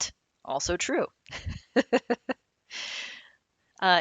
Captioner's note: laughing